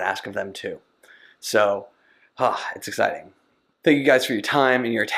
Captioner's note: exhales